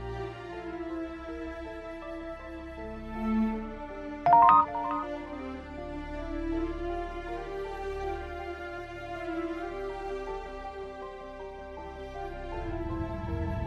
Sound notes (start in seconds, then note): 4.2 text sound; 5.5 intense music